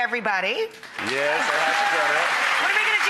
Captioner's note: applause